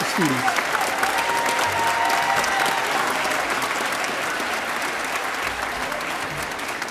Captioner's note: audience cheering and applauding